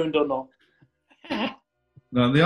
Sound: distorted noise

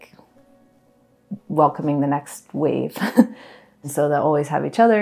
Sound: chuckles

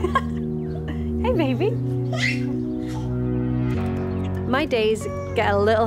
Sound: baby squealing

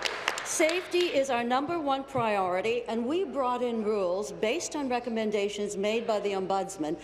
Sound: applause

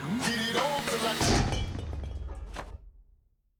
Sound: clattering

